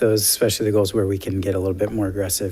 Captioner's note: none